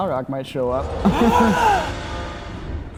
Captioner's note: gasps